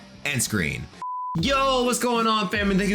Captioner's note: electronic tone beeps